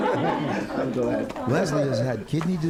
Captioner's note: laughter